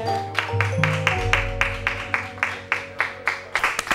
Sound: applauding

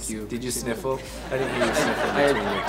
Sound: sniffles

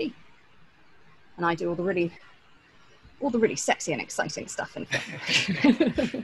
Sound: laughs

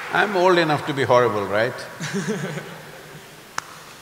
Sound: interviewer laughs

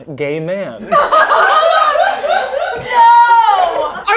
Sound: girls laughing

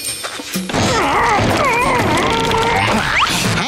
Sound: grunting

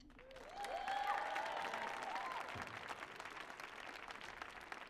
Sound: crowd cheers and applauds

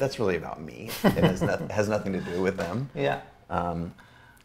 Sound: A.J. laughs

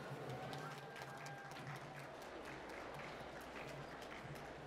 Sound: applause

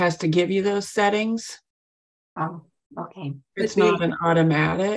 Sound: quietly

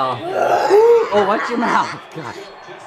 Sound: girl roaring

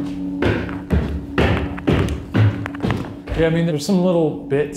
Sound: footsteps stamping

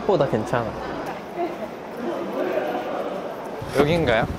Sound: trudging

